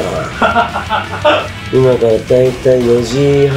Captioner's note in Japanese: 笑い声